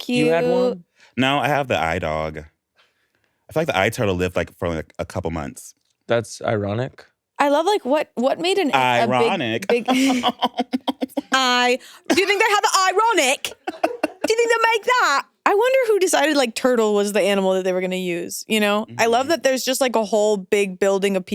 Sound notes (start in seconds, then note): 8.8 laughs